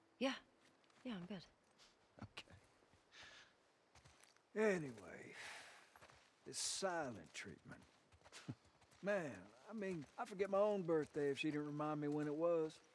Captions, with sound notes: Yeah... ...yeah I'm good. Okay... ...anyway... ...this silent treatment... (laugh) ...man, I mean I'd forget my OWN birthday if she didn't remind me when it was.